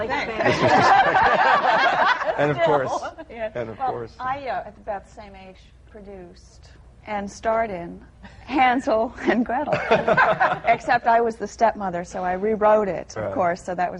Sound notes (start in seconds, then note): 0.3 laughter; 9.2 laughter